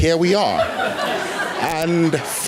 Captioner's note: laughter